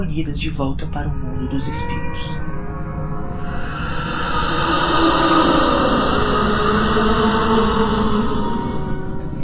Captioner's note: screams and anguish